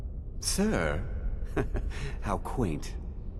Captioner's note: chuckle